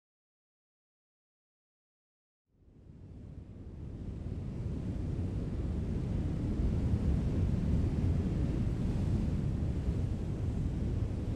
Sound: wind noise

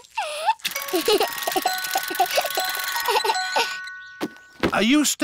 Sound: alexander giggles

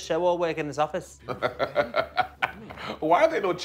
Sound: laughing

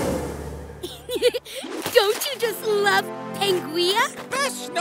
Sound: laughs

